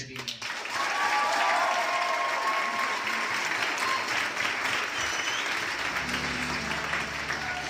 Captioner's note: crowd cheering